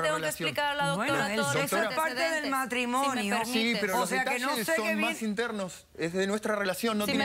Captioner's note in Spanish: Hablan al unísono